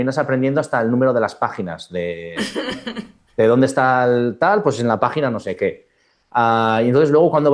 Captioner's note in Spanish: risas